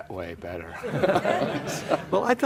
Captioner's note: laughter